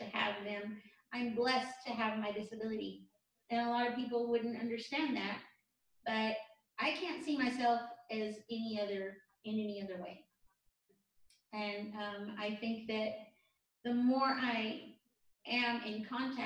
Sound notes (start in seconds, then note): none